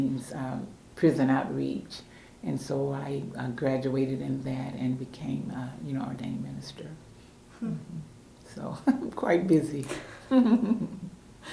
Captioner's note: laughter